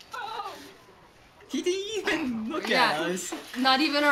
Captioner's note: laughs